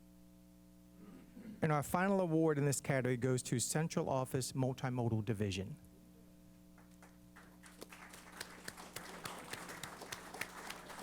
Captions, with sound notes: And our final award in this category goes to Central Office Multimodal Division. [APPLAUSE]